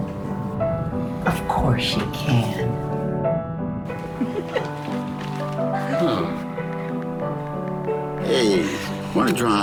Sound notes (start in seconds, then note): 3.3 groaning; 4.0 laughter